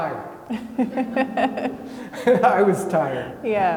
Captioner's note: laughing